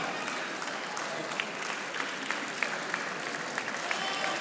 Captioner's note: audience applauding